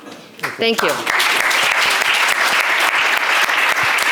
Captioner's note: applause